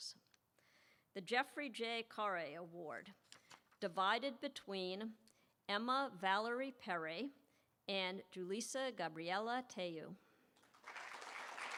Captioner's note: applause